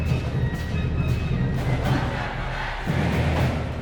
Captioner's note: crowd chanting